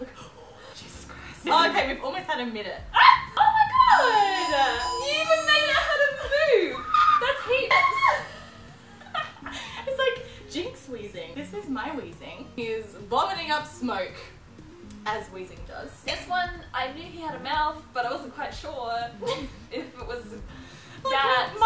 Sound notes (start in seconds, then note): 6.7 laughing type noises